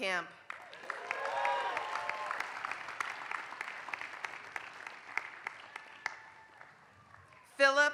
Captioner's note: applause